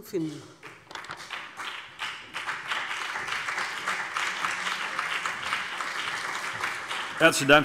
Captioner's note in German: Beifall BÜNDNIS 90/DIE GRÜNEN und vereinzelt CDU